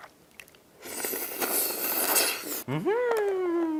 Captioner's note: slurrrrrrrrrrp~